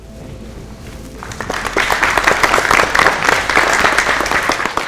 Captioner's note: applause